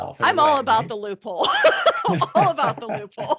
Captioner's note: laughing